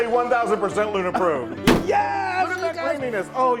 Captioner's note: stamp pounding